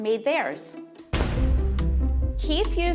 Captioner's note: dramatic crash